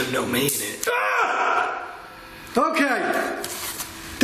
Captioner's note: screams